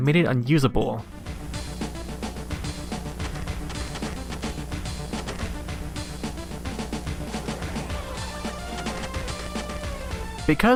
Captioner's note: audio sample with harsh noise